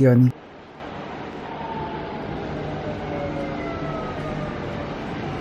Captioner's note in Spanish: sonido del tren